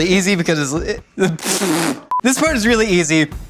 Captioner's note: blows raspberry